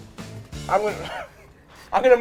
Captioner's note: laughs